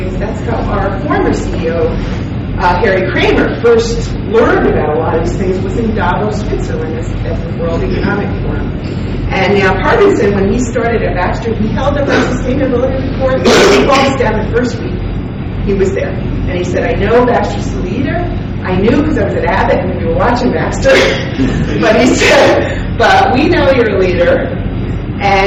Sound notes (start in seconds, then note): 13.3 coughing drowns out speaker